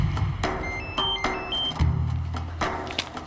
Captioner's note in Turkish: Telefon çalıyor